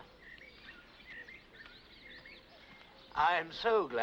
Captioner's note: birds chirping